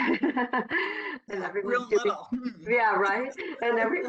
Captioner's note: laughter